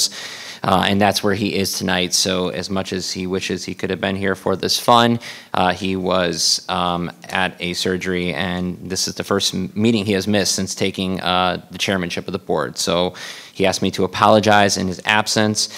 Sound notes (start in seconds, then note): none